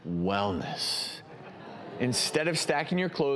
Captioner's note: audience laughs